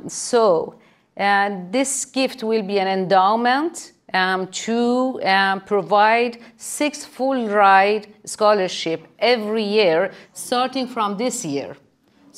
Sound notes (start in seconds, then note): none